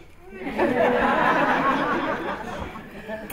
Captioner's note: laughter